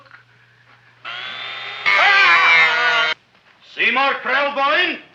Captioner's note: drill whirring; man groaning